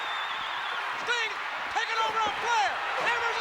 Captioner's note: applause